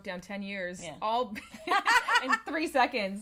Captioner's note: laughs